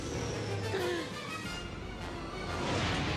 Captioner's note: gasps